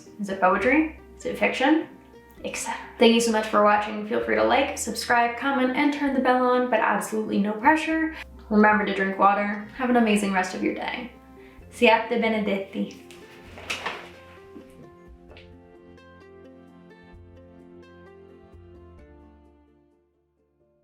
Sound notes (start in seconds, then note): 12.2 speaks in Italian; 13.6 bright music